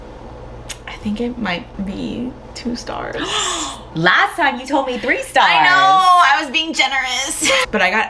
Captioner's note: gasp